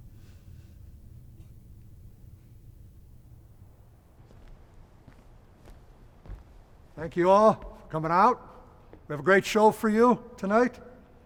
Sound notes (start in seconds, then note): none